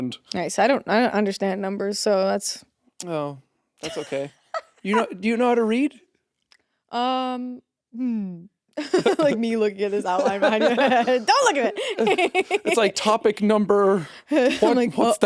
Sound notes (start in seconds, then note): 8.8 chuckles; 10.2 laughs; 10.2 chuckles